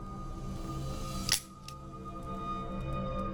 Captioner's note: gun clicks